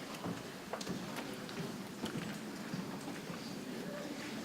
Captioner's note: people chattering softly